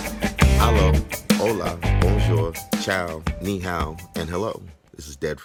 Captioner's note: Espanol